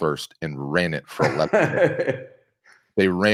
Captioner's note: laughing